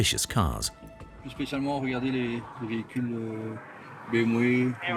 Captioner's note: French spoken audio